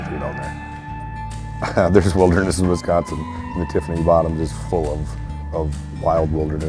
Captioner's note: laughs